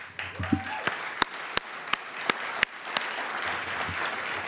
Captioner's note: audience applauding